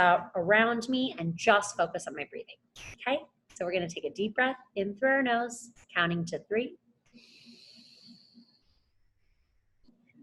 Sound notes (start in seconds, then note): 7.2 inhales